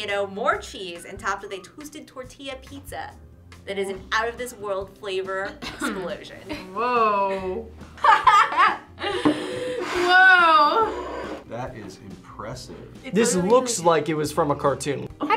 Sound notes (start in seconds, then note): 8.0 laughs